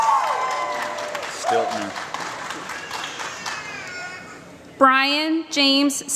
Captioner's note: applause